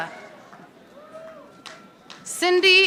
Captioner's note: audience applauding